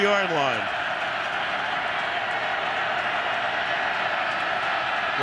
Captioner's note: crowd cheering